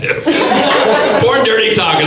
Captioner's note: audience laughs